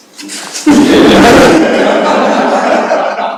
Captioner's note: laughter